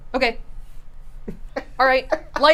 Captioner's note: laughs